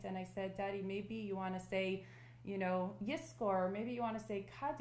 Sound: non-english

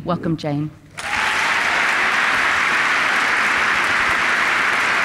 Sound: applause

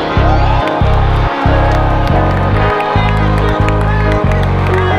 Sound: cheering and clapping

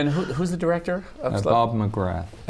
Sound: laughter

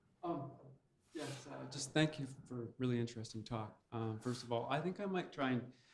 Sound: voiceover

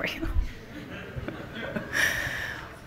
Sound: laughter from the audience

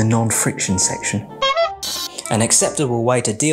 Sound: horn honking

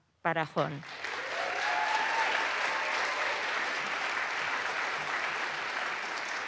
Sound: audience applauds; audience cheers

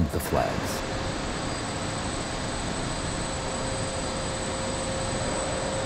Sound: high pitched ringing

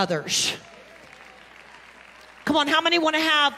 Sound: congregation clapping and cheering

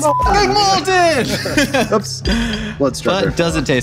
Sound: beep

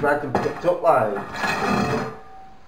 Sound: dragging noise

